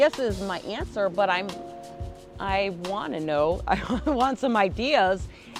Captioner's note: laughs